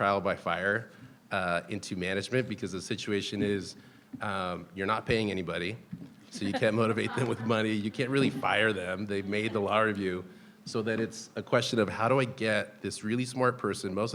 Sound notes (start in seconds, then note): 6.3 people laughing